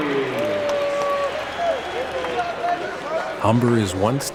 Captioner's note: cheering